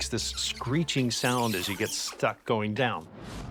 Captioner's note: screeching